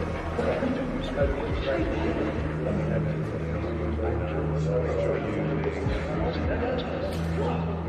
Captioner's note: chatter continues